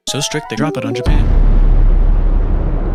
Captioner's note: atomic explosion